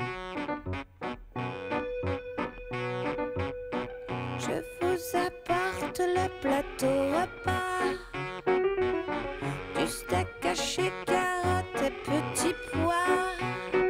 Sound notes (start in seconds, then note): none